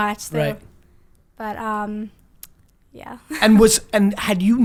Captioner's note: laughs